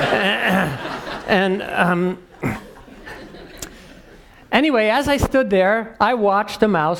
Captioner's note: laugh; cough